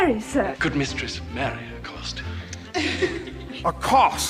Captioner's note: maids giggling